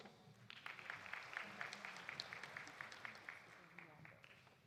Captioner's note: audience applauding